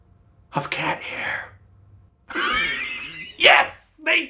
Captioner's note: laughs